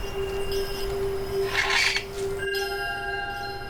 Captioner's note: door squeaking